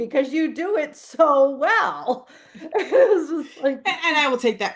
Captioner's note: laughs